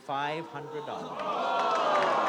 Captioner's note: crowd groans